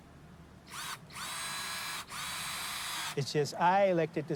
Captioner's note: drilling machine humming